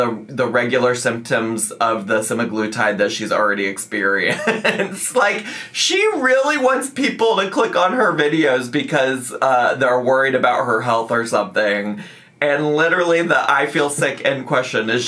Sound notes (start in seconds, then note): 4.3 laughs